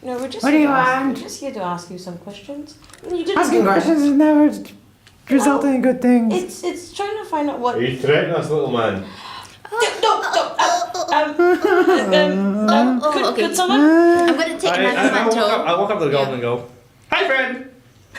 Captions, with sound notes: What do you want? We're just here to ask you some questions Asking question never... results in good things. We're trying to find out what...- You threatenin' us little man? *gasps* Er!...No! um... *whimper* Oh...oh, can someone... I'm gonna take another mantou... I walk up to the goblin and go, HI FRIEND!